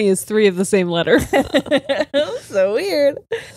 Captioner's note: all laughing